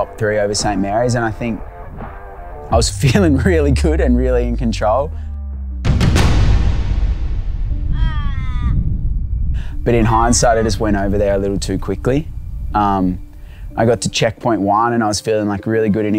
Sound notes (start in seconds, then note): 8.0 crows cawing